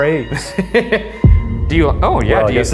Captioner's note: laughs